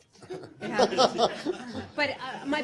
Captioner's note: laughter